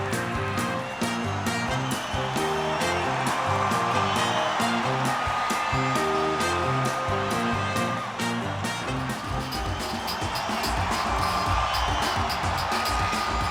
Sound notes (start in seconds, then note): 2.1 crowd cheers; 10.1 upbeat hip hop music